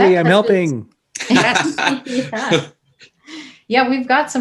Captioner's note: all laughing